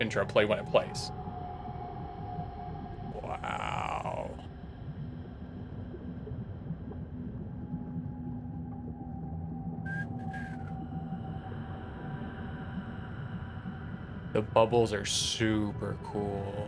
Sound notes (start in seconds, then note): 9.8 whistles